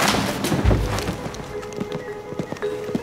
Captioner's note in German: Schwere Schritte